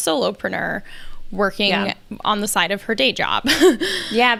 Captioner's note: laughs